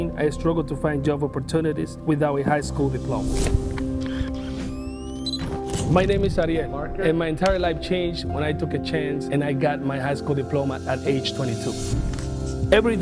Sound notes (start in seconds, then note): 3.7 gentle music continues; 4.7 camera whirs